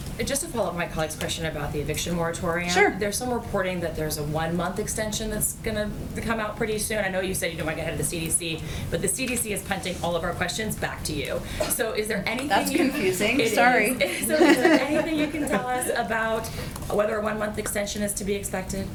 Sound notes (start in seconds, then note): 14.0 laughter